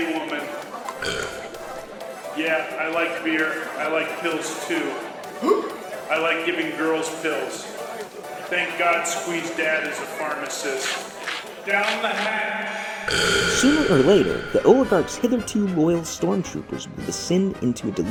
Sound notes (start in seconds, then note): 0.9 burps; 5.4 hiccups; 13.0 burp